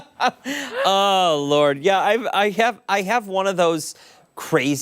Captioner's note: laughter